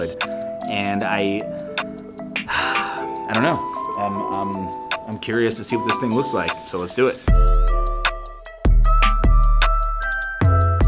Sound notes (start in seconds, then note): 2.4 sighs; 7.8 upbeat music